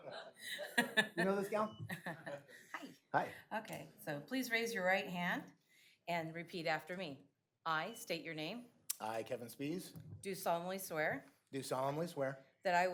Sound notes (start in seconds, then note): 3.4 laughing